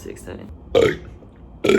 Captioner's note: bUrp